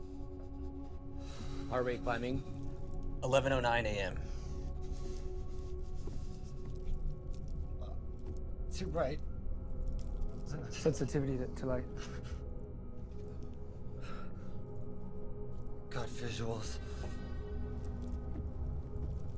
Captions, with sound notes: - Heart rate climbing. 11:09 a.m. (Patrick's breath shaking) - Too bright. - Sensitivity to light. - Got visuals.